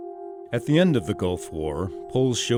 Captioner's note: voiceover